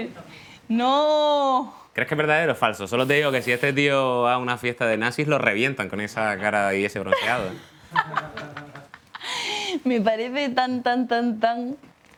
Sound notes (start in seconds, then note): 7.2 laughing